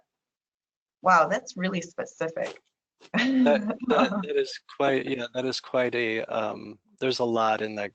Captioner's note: laughter